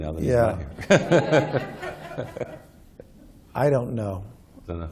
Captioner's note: laughter